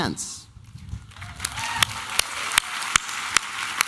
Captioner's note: applause and cheering